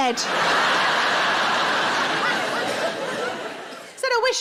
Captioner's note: audience laughing